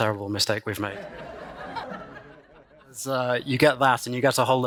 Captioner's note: laughter